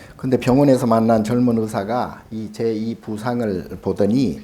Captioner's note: speaking Korean